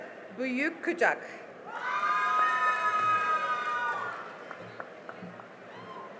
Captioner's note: cheering and applause